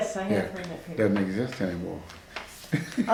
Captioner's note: laughs